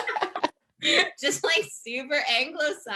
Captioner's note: laughter